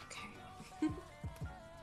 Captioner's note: giggles